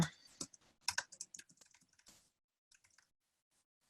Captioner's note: typing